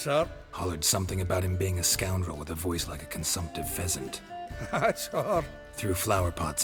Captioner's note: chuckling